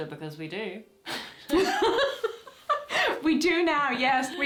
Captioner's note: laughter